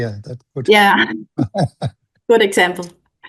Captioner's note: chuckles